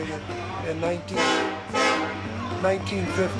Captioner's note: train horn blasts